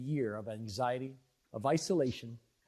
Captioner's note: speaking French